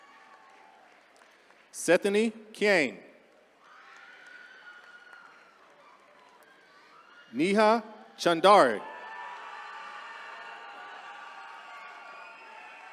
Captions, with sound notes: (attendees cheering) Sethany Kaing. (attendees cheering) Neha Chaudhary. (attendees cheering)